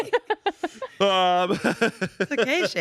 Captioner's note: everyone laughs